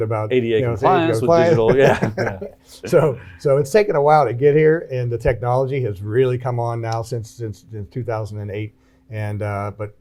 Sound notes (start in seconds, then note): 0.8 laughs